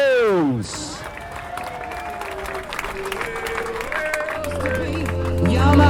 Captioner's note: applause